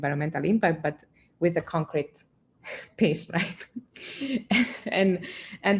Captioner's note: chuckling